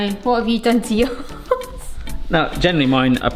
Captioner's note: chuckles